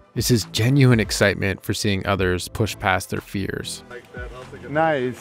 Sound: none

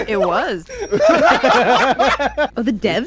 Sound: laughter

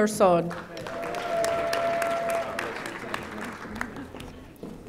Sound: audience applauding

